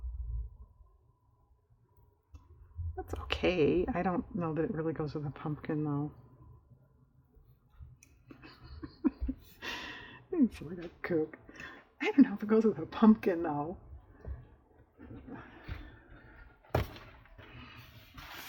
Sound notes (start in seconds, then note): 8.3 laughs